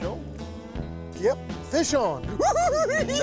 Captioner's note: cackles